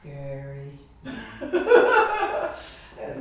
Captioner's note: laughter